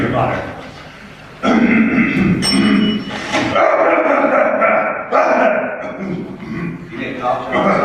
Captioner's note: clears throat a lot